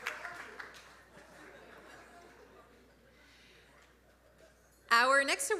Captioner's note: audience laughing